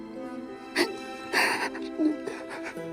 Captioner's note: sobs